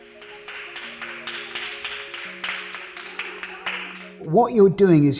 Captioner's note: group applauding